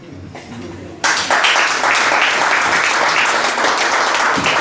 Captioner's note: guests applaud